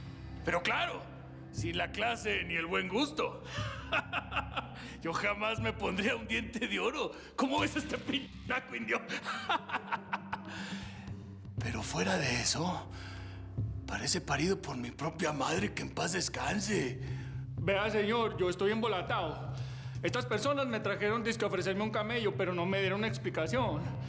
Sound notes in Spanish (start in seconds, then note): 3.6 carcajadas; 9.0 risas